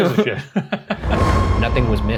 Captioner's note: laughing